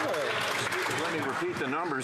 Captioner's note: applause